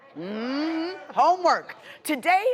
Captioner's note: crowd murmurs